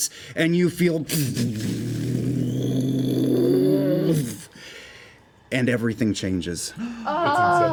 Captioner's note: explosion noise